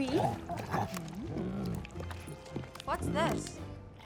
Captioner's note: Bruce rumbling